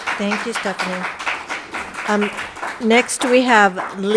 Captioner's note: crowd applauding